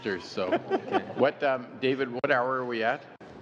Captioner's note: laughter